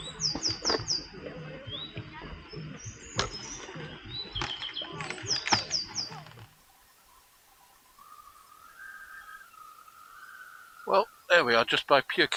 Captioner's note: bird-song